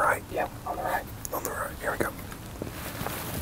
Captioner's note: whispering